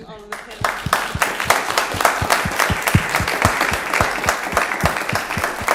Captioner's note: applause